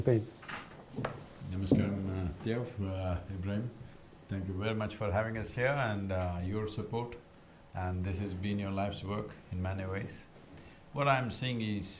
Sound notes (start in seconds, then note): none